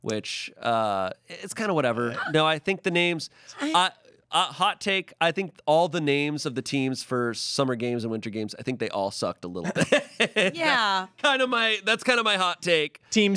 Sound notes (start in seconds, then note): 9.6 laughs